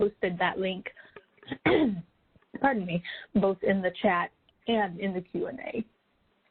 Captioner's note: clears throat